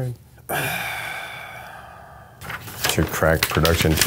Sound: sighs

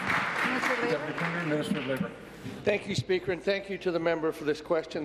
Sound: applause

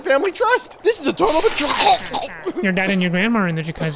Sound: chokes on water

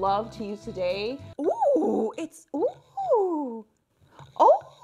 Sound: exclaims in awe

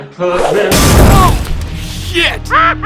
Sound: crash; laughing

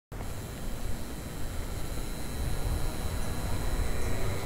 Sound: neon sign humming

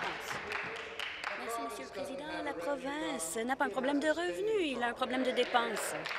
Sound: applause

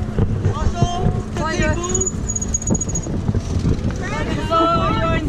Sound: speaking Spanish

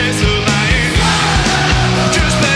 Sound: crowd

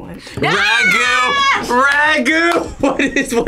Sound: laughs

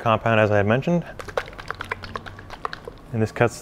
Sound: liquid bubbling

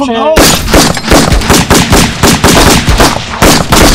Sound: gun firing

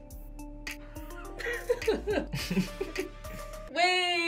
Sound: laughs

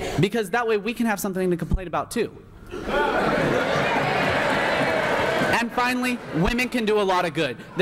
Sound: laughter here here

